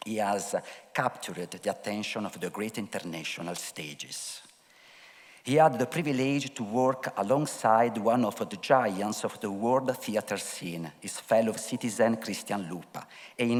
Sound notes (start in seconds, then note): none